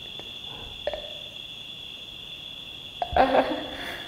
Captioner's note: crickets chirping; laughs